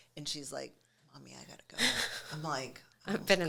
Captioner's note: chuckles